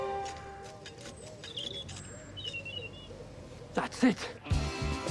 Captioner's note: birds chirping; dramatic music